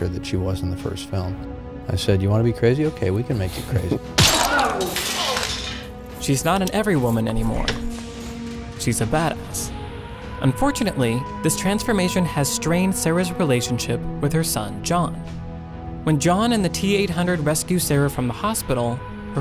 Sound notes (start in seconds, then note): 4.1 glass cracking; 4.2 pained groaning